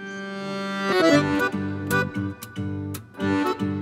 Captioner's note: Shashi stammering